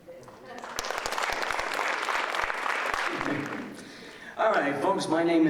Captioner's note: audience applauding